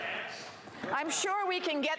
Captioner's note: shouting